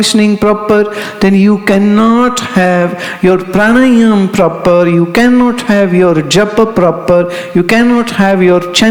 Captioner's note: mantra chanting